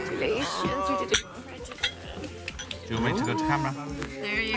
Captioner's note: glasses clink